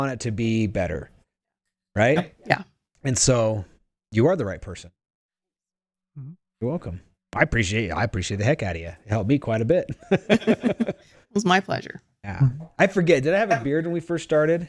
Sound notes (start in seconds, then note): 9.9 both laughing